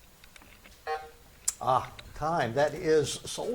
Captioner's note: buzzer buzzes